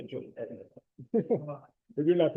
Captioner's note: laughter